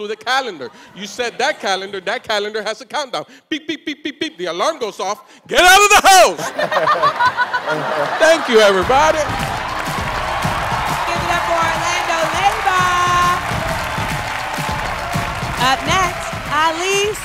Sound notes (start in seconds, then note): 6.3 laughter; 12.3 cheers and applause